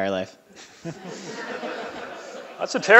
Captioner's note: laughing